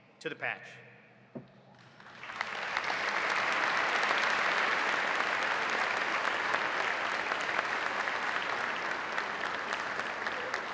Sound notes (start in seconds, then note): 1.8 audience applauding